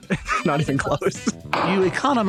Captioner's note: sound of gavel